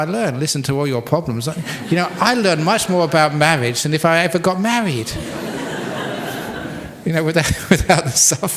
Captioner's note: laughter